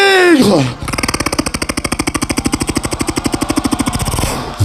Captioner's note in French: beatbox